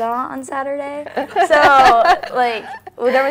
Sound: laugh

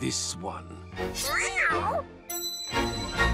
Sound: meows

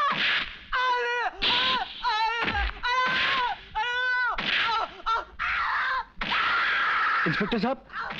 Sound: screams; Guldasta groaning and screaming

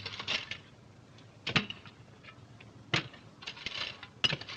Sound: metal scraping

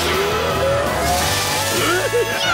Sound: laughing

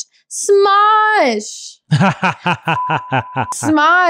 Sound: laughing; beep

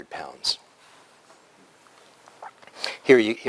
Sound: pause

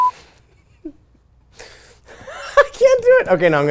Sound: laughs

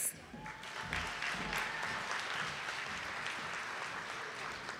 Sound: audience applauding

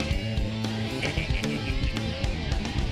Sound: laughs

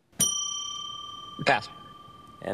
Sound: bell dings

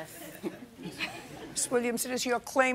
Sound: laughter

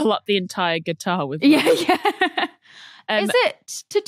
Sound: laughs

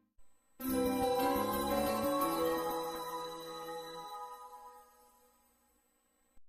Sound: high-pitched tinkling with an ascending sound effect

